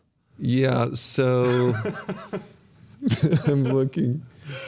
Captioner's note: laughs